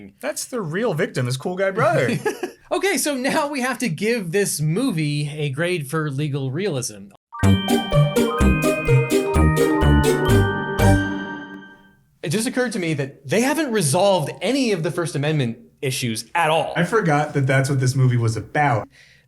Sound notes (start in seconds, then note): 1.8 laughs; 7.3 upbeat music